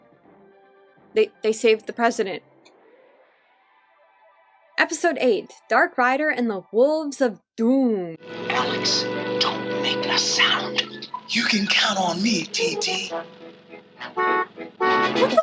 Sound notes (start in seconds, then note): 8.6 whispering; 14.0 honk!